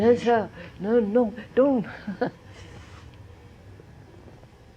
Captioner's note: laughs